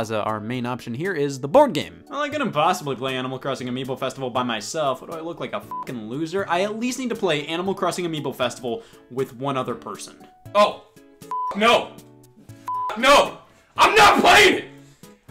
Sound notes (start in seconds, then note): 5.7 beeps; 12.6 beeps